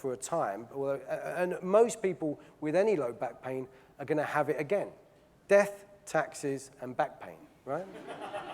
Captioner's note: audience laughing